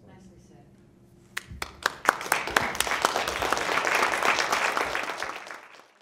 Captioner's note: audience applauding